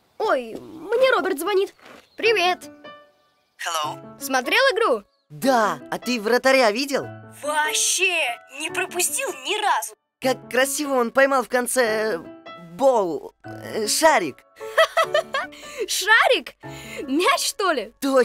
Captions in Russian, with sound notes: Ой! Мне Роберт звонит. Привет! Hello! Смотрел игру? Да! А ты вратаря видел?! Ваще-е! Не пропустил ни разу! Как красиво он поймал в конце... ball... шарик! [Смех Гоши] Шарик?! Мяч что ли?